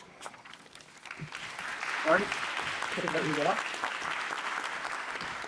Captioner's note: audience applauding